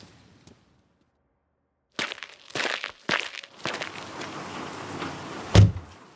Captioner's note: footsteps fading out; footsteps on mud; car door close